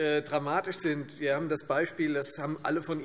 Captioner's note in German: none